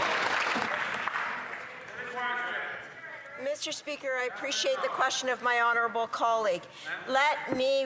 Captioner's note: some Applause